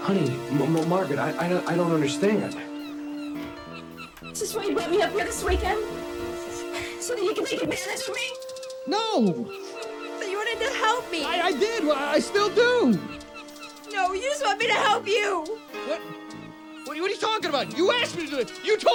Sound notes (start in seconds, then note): 3.2 birds chirping; 4.0 dramatic music